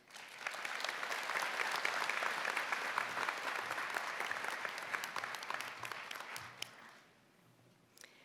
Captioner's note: applause